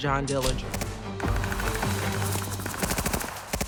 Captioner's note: gunfire